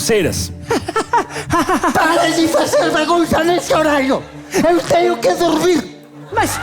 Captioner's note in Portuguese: risos